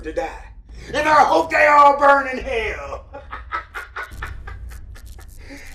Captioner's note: laughs